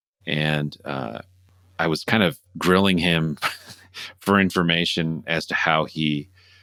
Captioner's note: laughter